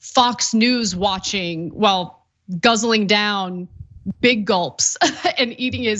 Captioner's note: laugh